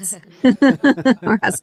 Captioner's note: laughter